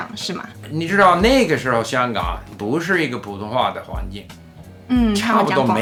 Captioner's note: Mandarin